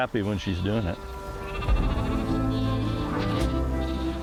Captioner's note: sheep Baaaing